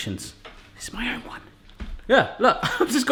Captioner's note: whispering